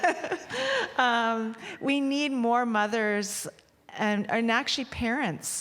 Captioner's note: laughter